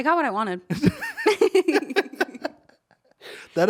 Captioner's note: laughing